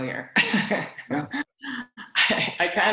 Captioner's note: laughs